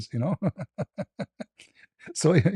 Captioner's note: ketawa